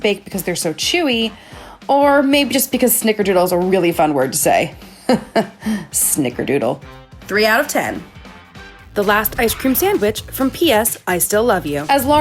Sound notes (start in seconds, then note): 4.9 laughs